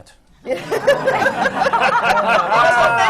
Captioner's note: laughter